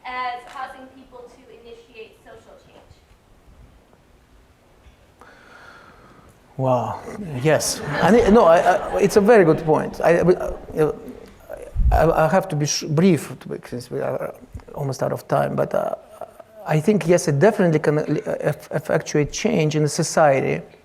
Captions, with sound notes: as causing people to initiate social change? - Well, yes. (audience laughing) It's a very good point. I'll have to be brief with this, we are almost out of time, but I think yes it definitely effectuates change in society.